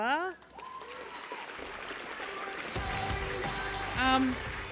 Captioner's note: applause